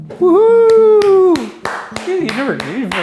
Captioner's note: clapping